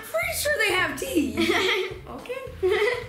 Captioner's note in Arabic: يضحك